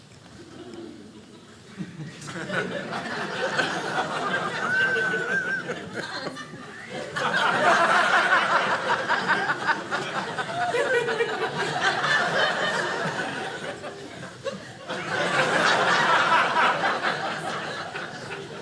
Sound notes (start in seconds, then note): 2.2 audience laughing